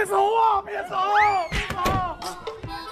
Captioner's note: boom